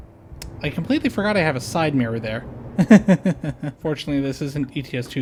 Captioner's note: nervous laughter